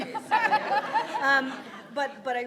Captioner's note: laughing